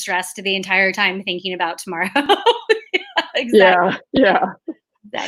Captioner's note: laughs